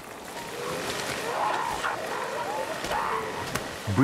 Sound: seals barking

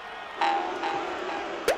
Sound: crowd booing

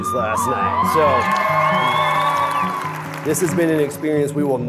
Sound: crowd cheering

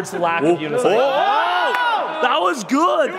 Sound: whooping

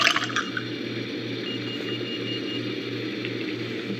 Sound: alarm sound

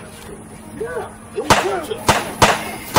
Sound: gun shots

